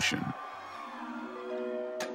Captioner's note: audience screaming in panic